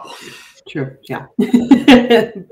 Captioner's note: laughing